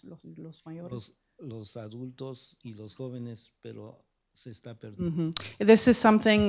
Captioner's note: speaking spanish; speaking spanish